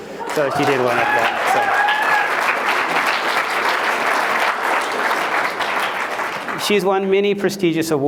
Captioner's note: applause